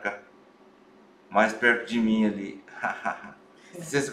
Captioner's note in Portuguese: risos